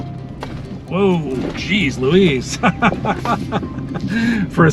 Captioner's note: laughter